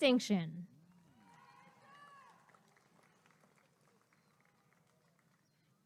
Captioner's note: applause and cheering